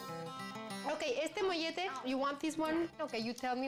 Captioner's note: speaking spanish